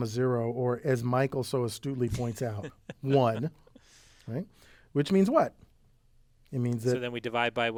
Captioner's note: laugh